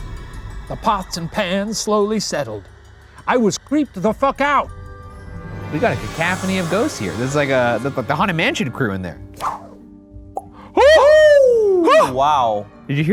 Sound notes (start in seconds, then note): 9.4 paper swishes; 10.7 exclaim